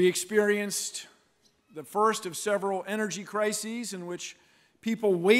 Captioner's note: none